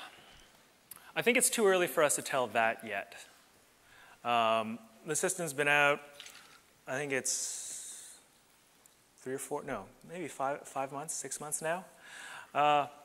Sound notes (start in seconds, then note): none